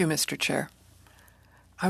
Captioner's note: speaking French